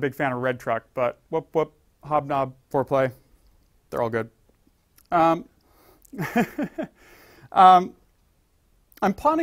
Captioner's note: laugh